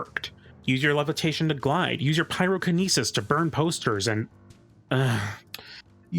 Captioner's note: groan